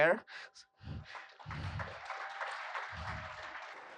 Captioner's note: applause